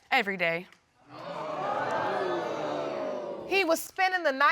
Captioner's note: audience gasps